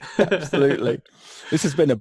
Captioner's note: laughs